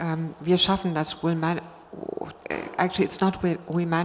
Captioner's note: speaking foreign language